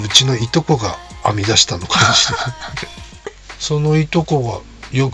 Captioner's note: laughs